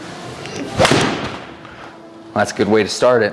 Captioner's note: club thuds